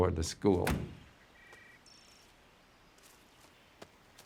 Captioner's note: door thudding; birds chirping